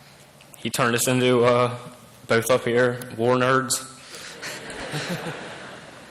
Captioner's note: laughter